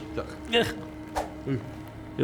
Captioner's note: pow!; swish